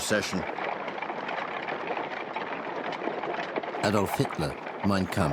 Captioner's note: carriages clattering